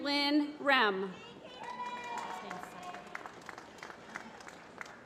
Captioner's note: applause